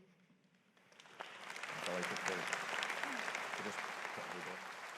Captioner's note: audience applauding